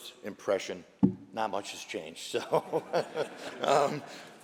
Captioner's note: laughter